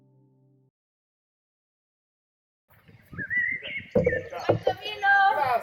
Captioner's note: birds Chirping